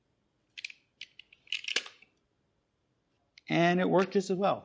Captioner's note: mechanical clacking